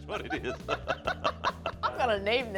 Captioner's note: laughter